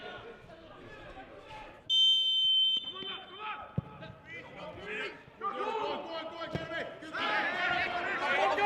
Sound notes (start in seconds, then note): 1.9 referees whistle; 5.3 players shouting